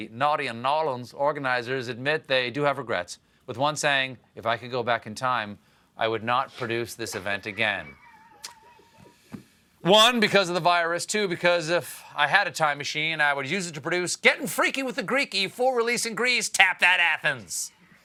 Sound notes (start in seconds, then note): 7.4 laughter